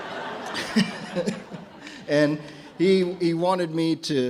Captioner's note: audience laughs; laughs